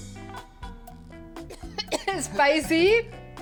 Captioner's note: coughs